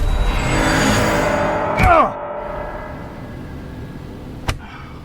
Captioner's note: Jimmy yells